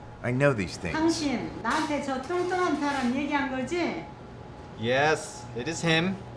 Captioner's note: Mrs. Chong speaking in Korean